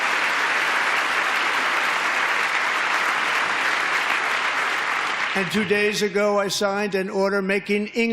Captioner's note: applause